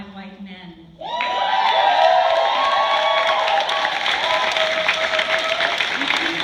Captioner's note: raucous cheers, applause